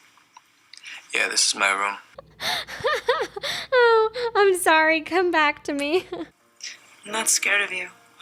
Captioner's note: laughing